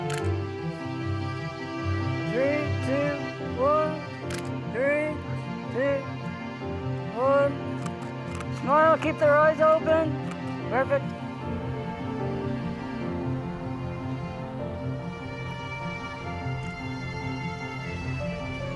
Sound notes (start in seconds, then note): 0.0 camera shutter clicking; 4.2 camera shutter clicking; 7.8 camera shutter clicking; 11.8 subtle music